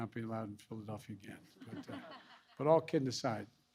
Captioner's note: laughter